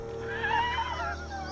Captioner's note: laughing